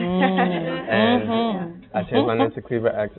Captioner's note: murmuring and laughing